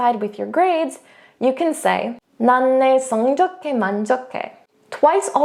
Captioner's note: speaking in foreign language